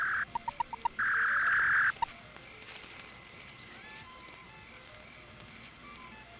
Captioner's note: beeping; whirring